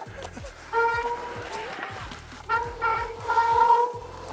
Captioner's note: squeaking